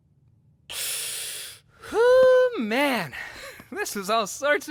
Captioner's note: hisses through teeth